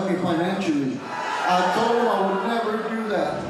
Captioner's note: audience booing